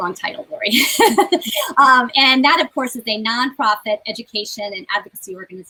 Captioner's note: laughs